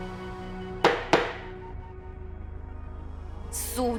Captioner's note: thump... thump